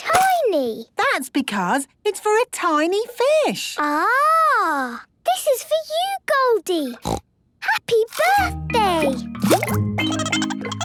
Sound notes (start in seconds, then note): 7.0 snorting; 10.1 Goldie giggling